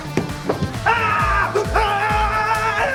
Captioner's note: screaming